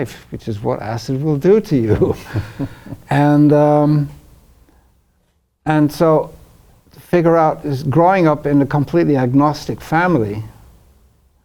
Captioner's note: laughs